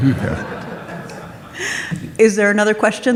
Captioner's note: audience laughs